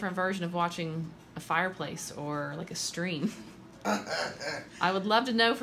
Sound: laughs

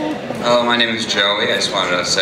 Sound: voiceover

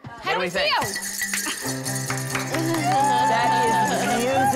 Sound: bells ringing

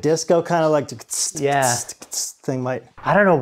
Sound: vocalizes drum rhythm

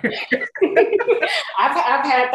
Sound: all laughing

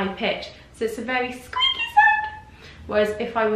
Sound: high-pitched voice

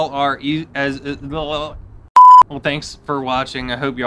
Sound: note beeps

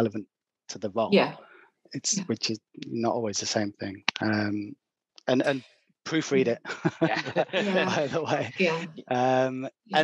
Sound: laughs

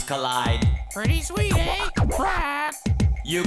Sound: squawks

